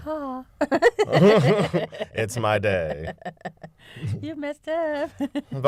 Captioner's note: laughter